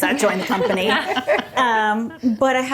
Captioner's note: group laughing